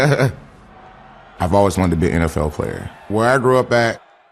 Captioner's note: laughs